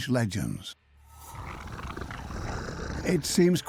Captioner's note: snarling